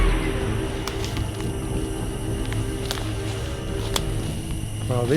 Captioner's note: twigs snapping